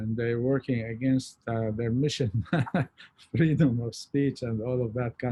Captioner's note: laughs